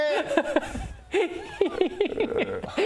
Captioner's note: gremlin laugh